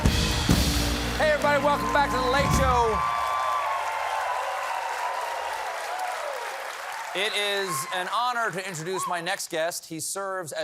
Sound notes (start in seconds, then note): 4.6 applause